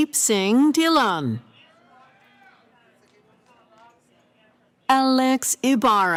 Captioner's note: cheering